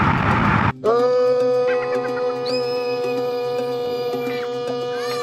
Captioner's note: yells and screams